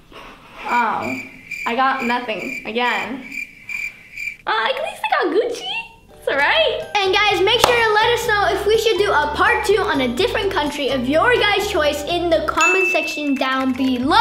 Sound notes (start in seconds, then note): 0.8 crickets chirping